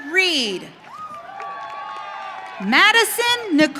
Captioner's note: audience cheering